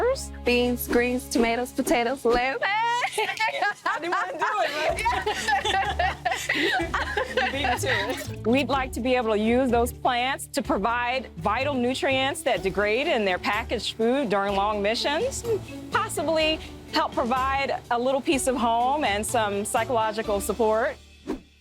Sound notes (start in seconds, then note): 2.6 Fig laughing; 6.0 laughter